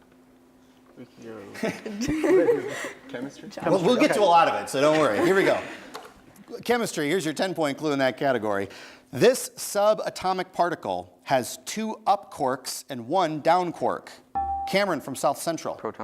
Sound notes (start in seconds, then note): 1.5 laughs; 4.8 laughs; 14.3 bell rings